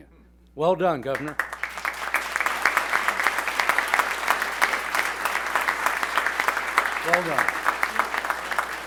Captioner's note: applause